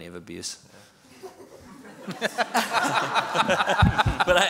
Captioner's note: laughter